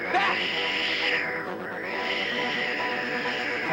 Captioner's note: Sleestak wheezing; intense music